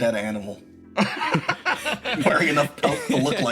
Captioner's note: laugh